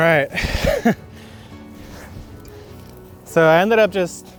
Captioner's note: chuckles